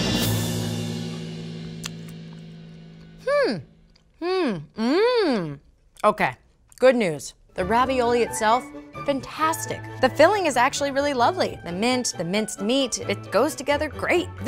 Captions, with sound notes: (hums thoughtfully) (hums in surprise) Okay, good news. The ravioli itself, fantastic. The filling is actually really lovely. The mint, the minced meat, it goes together great.